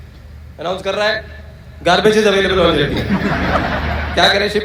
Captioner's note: audience Laughter